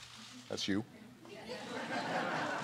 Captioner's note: laughter